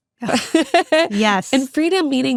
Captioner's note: person laughing